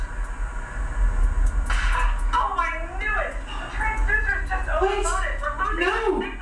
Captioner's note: small explosion